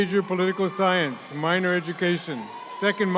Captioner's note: audience cheering